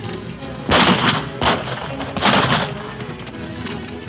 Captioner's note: firing gun